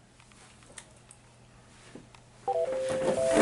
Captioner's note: national anthem ringtone x2